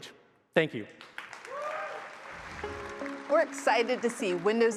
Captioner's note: applause